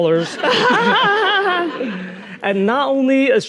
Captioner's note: audience laughing; Nadine laughing